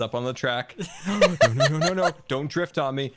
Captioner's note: cackles